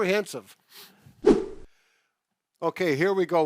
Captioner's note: whooshing